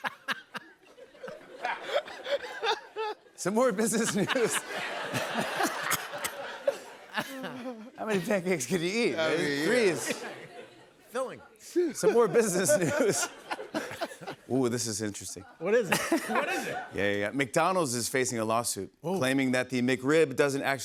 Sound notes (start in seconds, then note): 3.8 laughter; 3.8 laughs; 11.2 laughs